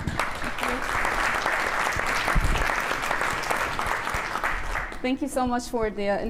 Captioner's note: applause